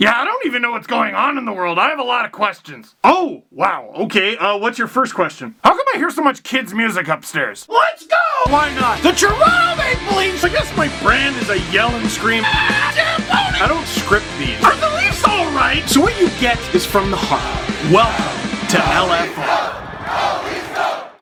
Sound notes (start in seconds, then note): 8.0 rock music plays throughout intro; 12.4 screams